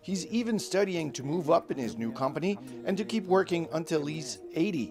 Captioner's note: speaking alternate language